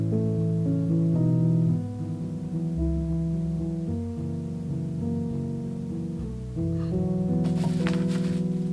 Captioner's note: laughs